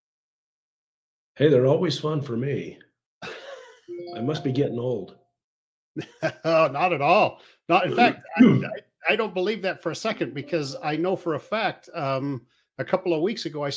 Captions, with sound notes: - Hey, they're always fun for me. (laughs) I must be getting old. - (laughs) Oh, not at all. In fact, I don't believe that for a second, because I know for a fact a couple of weeks ago